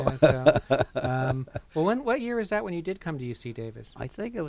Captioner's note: laughter